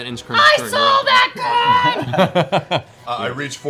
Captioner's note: shouting